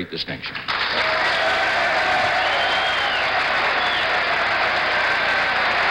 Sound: audience applauding and cheering

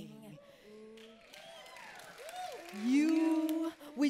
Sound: applause

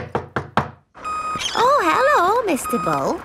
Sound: knocking at door

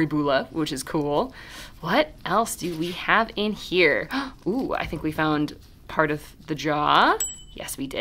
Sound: ding

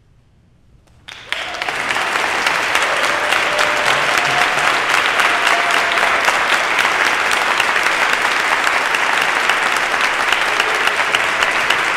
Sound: cheering and clapping

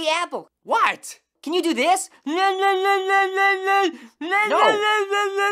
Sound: babbling

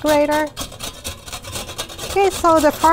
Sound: grating noise

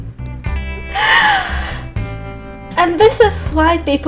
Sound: gasps

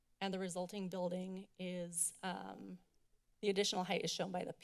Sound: none

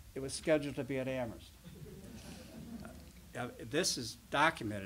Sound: laughter

